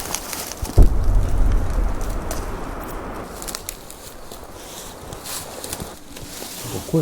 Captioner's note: suddenly we hear a noise like a car driving